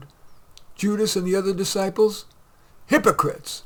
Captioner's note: shouting at the Pharisees